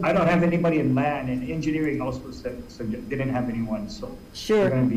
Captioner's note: none